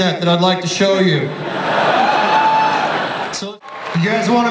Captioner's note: audience laughter